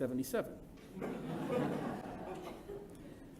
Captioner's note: laughter